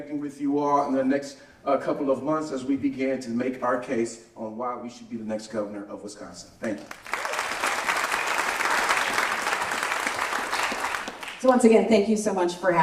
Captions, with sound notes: with you all in the next couple of months as we begin to make our case on why we should be the next Governor of Wisconsin. Thank you. [applause] So once again, thank you so much for